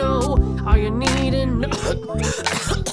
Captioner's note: coughing